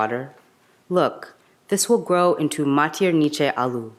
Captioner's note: speaks in a foreign language